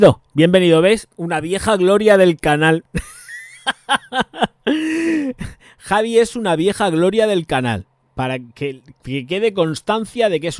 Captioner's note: laughs